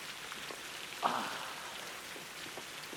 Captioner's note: groaning